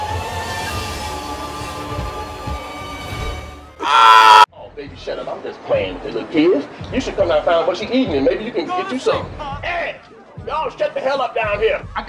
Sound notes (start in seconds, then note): 3.7 screams